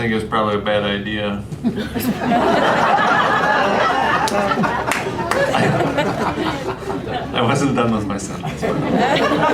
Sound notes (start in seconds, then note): 1.6 laughter